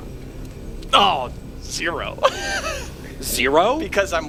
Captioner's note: laughs